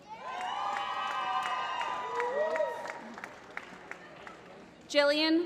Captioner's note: applause